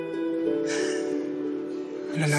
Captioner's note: exhales deeply